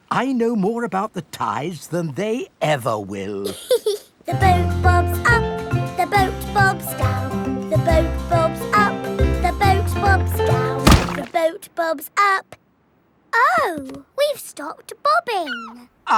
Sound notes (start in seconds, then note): 3.4 giggles; 10.8 thuds